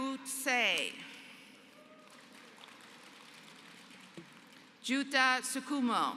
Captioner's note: applause